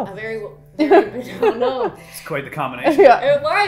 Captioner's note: laughing